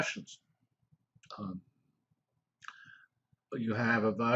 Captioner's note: pause